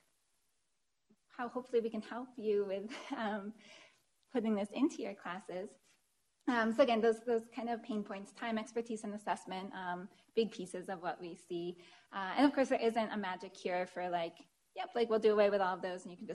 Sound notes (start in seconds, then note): 2.9 chuckles